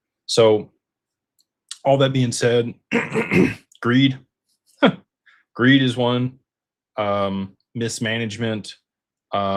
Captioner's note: clears throat